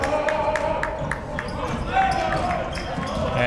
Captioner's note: clapping